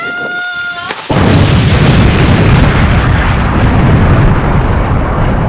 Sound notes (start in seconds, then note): 0.9 explosion sounds